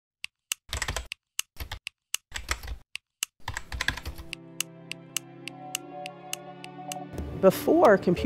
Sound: clicking of typing at keyboard

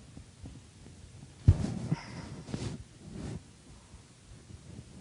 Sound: coughing

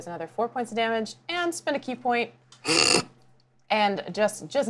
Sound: snorts

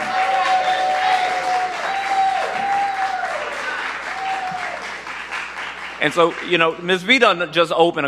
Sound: cheers and applause

